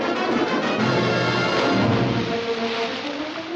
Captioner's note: splashing